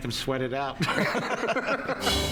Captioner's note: laughs